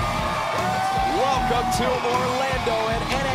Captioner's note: crowd cheering